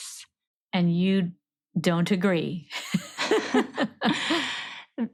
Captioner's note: laughs